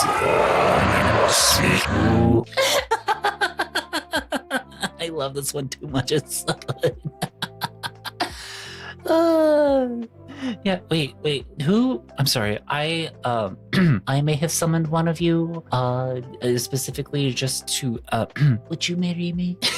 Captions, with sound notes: (reversed) Who keeps summoning us (laughing) I love this one too much. It's too good. (laughing) Yeah, wait, wait, who? I'm sorry. I may have summoned one of you specifically just to, would you marry me?